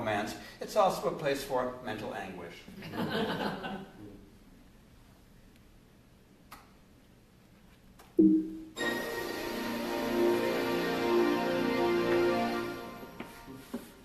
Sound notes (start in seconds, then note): 2.8 laughter